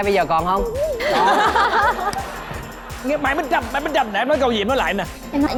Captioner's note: laughing